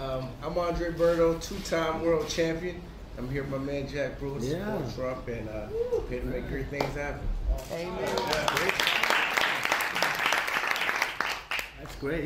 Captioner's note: applause